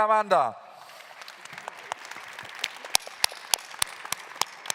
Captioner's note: claps